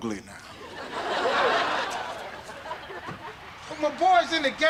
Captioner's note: audience laughter